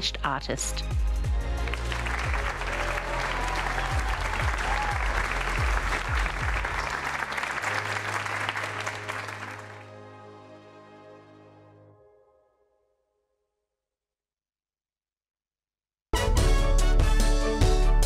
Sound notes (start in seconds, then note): 4.0 applause